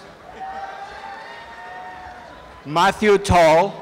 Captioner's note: applause and cheering